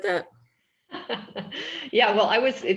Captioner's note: laughing